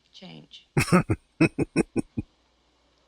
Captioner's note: chuckling